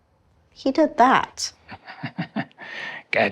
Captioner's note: Hardy laughs